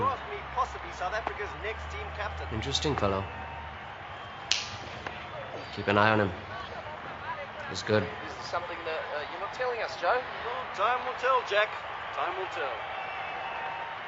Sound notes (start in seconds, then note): 4.4 snaps